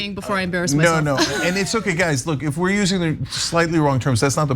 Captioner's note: laugh